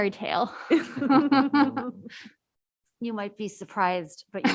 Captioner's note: laughs